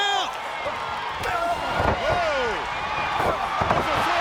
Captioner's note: audience cheers